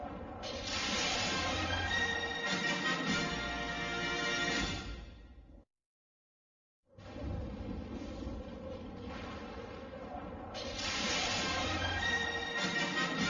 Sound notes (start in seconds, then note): 0.6 lightning crashing down as rousing fanfare plays; 7.1 thunders rumble; 10.7 lightning crashing down as rousing fanfare plays